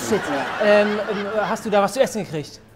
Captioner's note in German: Lachen